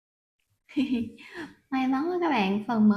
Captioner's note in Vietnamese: tiếng cười